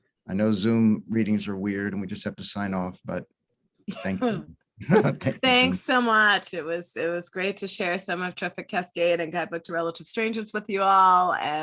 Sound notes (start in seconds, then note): 4.8 laughs